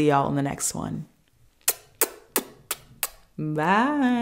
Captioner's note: kisses